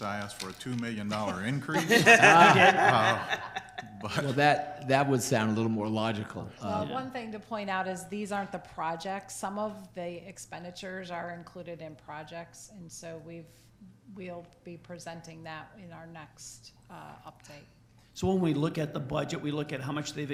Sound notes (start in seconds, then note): 1.7 everyone laughs